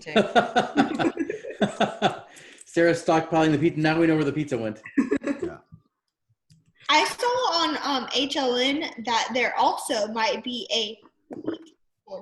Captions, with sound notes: - Me too. (laughing) - Serious talk, buying the pizza, now we know where the pizza went. (laughing) - Yeah. - I saw on HLN that there also might be a wheat shortage.